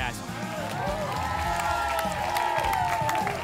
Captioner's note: applause and cheering